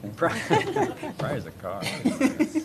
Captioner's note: laughter